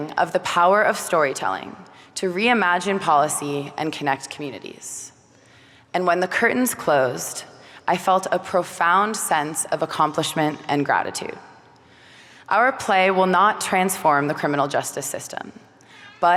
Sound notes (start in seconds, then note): none